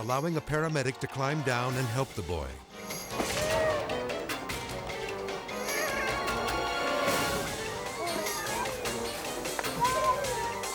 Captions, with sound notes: allowing a paramedic to climb down and help the boy. (intense music) (people clamoring)